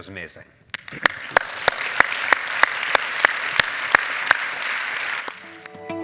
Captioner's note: applause